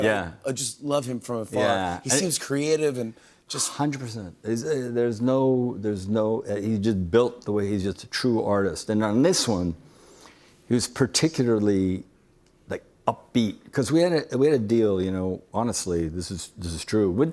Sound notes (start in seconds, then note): none